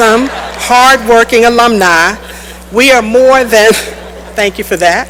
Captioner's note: laughter